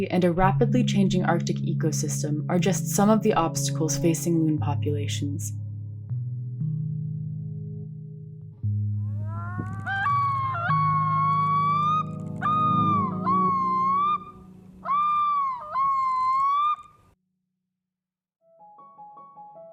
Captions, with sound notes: and a rapidly changing Arctic ecosystem are just some of the obstacles facing loon populations. [BIRDS CRYING]